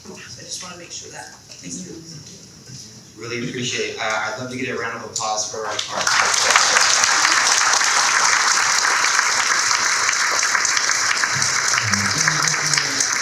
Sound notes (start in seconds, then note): 5.6 audience clapping